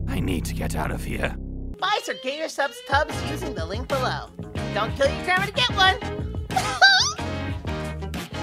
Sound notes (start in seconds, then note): 6.6 cute anime squeal